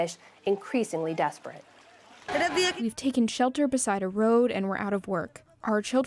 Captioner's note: through translator